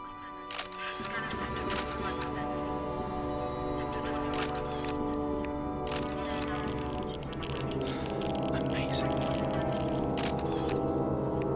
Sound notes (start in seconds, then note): 0.5 shutter clicking; 3.7 chatter continues; 5.8 clicking continues; 5.8 device crackling, trilling; 7.9 sighs; 10.1 clicking continues